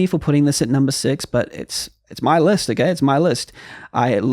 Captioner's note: deep breath